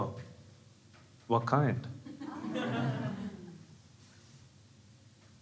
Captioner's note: crowd laughing